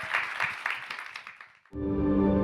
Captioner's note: audience applauding; gentle music